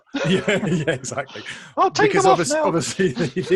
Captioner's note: laughs